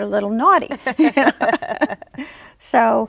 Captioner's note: laughs